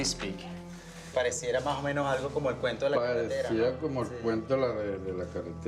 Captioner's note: speaking foreign language